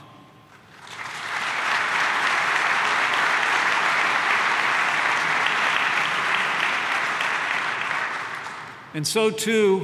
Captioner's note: applause